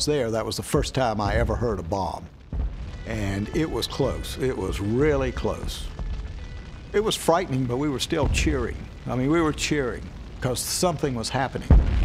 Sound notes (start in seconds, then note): 3.8 sirens wailing; 11.8 explosions echoing